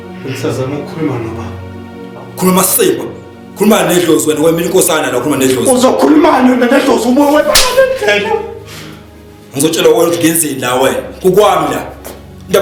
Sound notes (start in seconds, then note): 7.5 smack